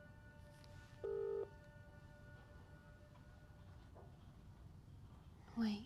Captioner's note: phone line ringing stops